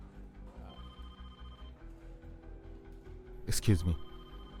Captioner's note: phone ringing